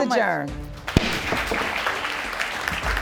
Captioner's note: audience applauding